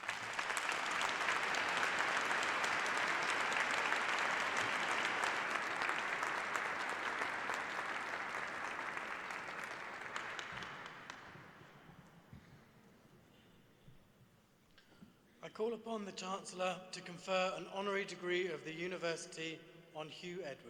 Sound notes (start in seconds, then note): 1.6 applause